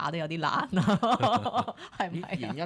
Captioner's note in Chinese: 眾人笑